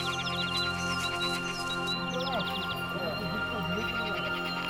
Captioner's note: birds calling; soft music